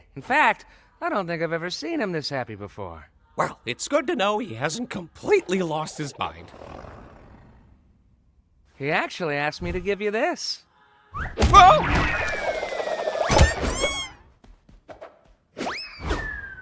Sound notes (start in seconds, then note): 5.2 Kaufmo growls; 13.3 wails, screams